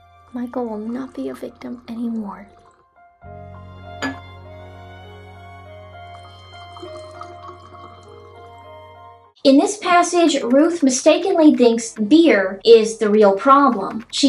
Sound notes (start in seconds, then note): 0.6 drinks pouring down the sink; 4.0 glass clinks; 6.1 drinks pouring down the sink